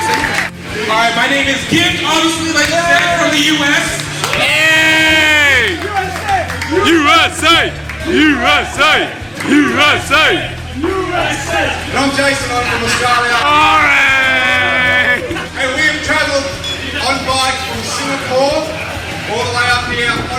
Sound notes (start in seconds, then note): 15.8 boos